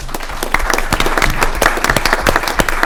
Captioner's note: applause